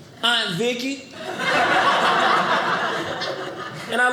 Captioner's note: audience laughing